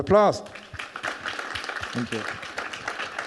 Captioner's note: audience clapping